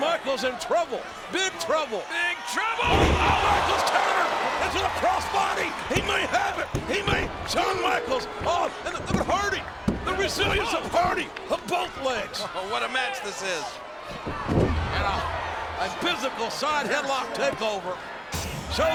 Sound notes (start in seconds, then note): 14.1 bodies thud